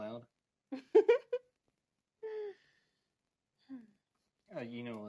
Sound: Audrey giggles

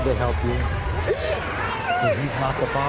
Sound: sobs

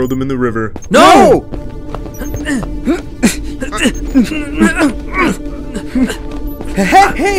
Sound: grunting

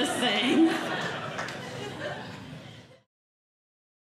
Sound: audience Laughing

